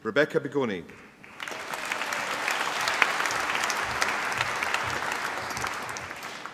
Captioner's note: applause